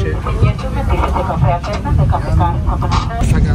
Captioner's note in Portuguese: voz em auto falante do vagão